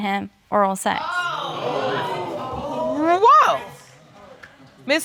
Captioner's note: audience gasping